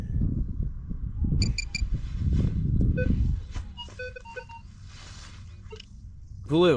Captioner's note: beeping